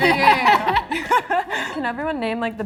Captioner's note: all laugh